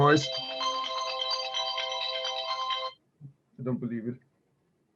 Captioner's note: phone ringing